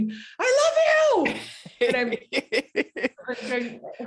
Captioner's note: laughing